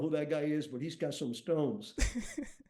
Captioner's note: chuckles